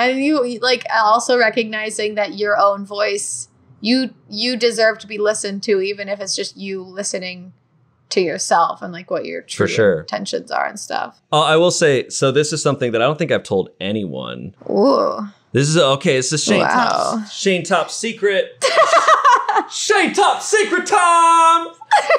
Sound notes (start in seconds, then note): 18.6 laughing; 21.8 laughing